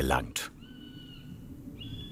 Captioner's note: bird calls